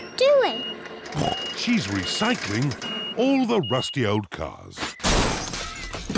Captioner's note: snorts